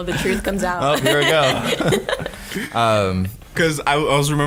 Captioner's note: laughing